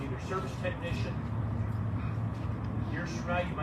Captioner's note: none